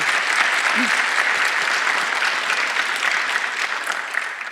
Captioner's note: applauding